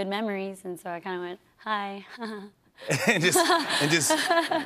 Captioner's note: chuckles